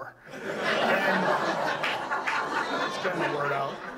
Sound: audience laughs

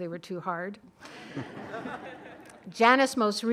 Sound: laughing

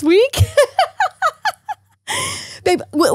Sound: laughing

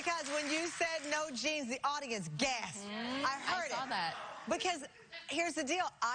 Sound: cheers and applause

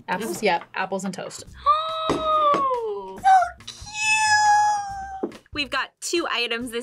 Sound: gasps

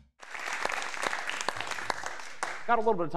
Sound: audience applauds

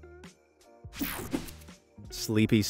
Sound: graphics whooshing

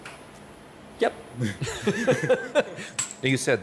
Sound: laughs

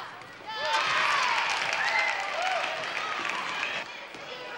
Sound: crowd cheers

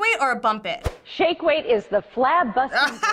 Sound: voice-over; laughs

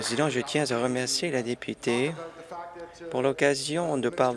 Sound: applause

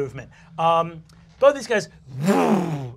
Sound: whooshes

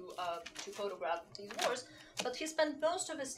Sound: shuffling paper drowns out

